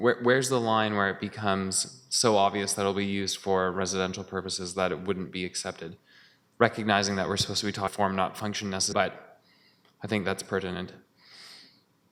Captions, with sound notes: Where's the line where it becomes so obvious that it will be used for residential purposes that it wouldn't be accepted, recognizing that we're supposed-- [audio drop] >> --but I think that's pertinent?